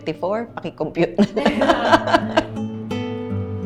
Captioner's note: laughs